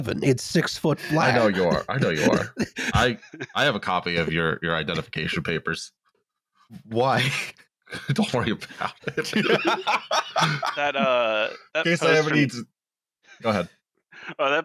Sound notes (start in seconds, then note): 7.9 laughing; 8.3 laughter